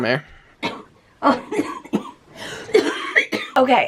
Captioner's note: coughing